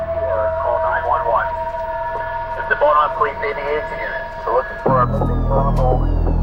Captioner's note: police sounds